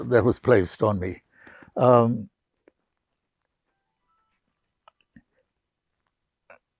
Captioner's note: pauses 11 seconds